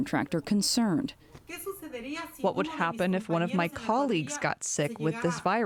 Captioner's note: through translator